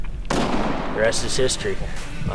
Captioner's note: gun shot